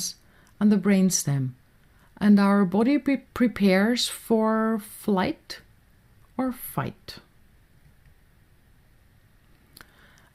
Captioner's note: clic